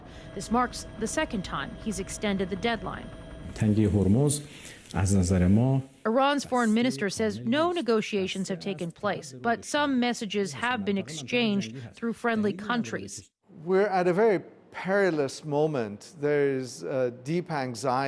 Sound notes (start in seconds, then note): 7.5 speaking Alternate Language